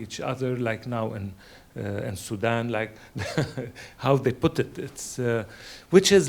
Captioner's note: laughs